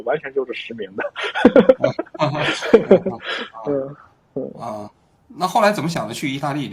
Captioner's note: laughing